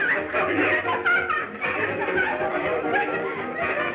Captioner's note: laughing